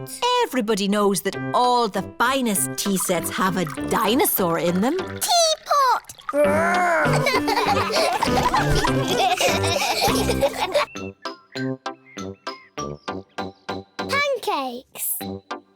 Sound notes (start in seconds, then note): 6.5 all laughing